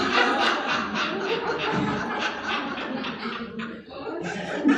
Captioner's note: laughing